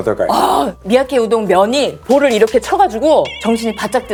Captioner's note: noodle slapping